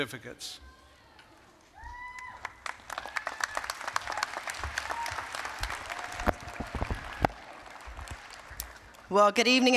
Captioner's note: applause, cheering